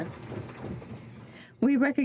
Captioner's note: some Applause